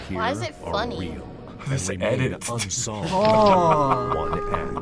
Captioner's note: laughs